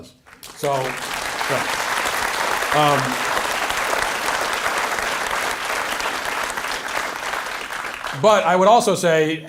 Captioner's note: audience applause